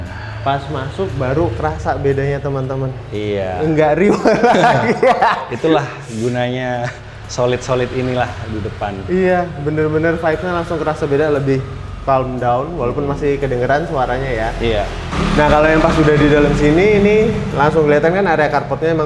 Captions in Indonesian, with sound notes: Nah pas masuk baru kerasa bedanya teman-teman. Iya. Enggak riweuh [tertawa] lagi Itulah gunanya. Solid-solid inilah di depan. Iya, benar-benar vibesnya langsung kerasa beda lebih calm down walaupun masih kedengaran suaranya ya. Iya. Nah, kalau yang pas sudah di dalam sini ini langsung kelihatan kan carpotnya